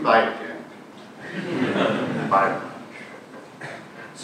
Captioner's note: audience laughing